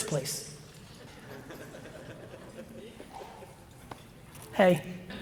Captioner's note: audience chuckles